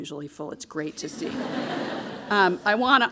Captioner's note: audience laughing